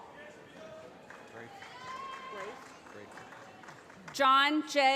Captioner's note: applause